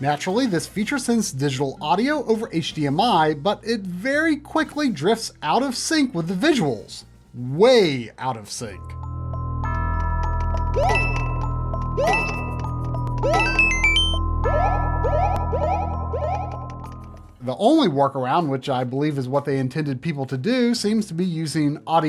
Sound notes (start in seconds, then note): 11.6 game audio